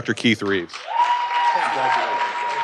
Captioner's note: audience cheering and applauding